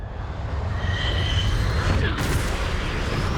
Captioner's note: fighter jet engine noise